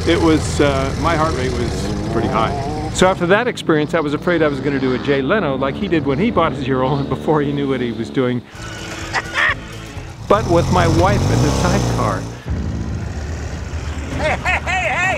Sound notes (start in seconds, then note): 2.1 engine roaring; 8.5 engine running; 8.6 laughing; 12.7 engine roaring; 12.7 ominous music